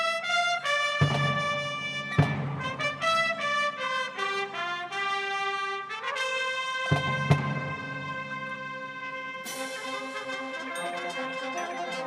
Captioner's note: applause